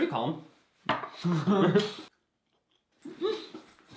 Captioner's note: both laughing; exhales in excitement